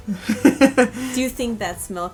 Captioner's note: laughter